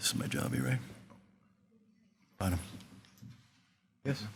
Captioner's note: faintly speaking